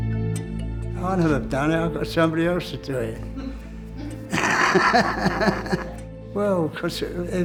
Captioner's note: laughter from of camera